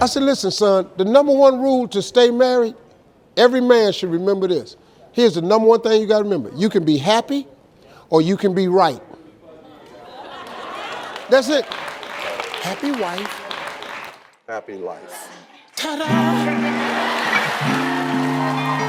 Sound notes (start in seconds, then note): 12.0 audience claps; 15.8 upbeat music; 18.6 audience cheers